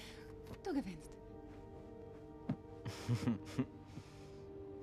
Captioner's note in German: gluckst